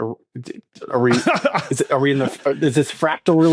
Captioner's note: laughs